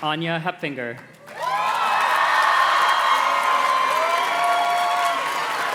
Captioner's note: audience cheers and claps